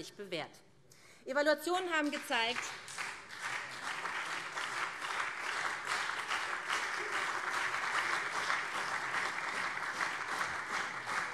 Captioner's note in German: Beifall SPD und CDU